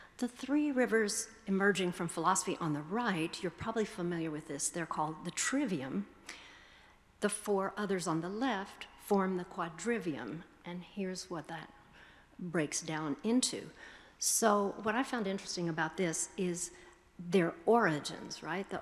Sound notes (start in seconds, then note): none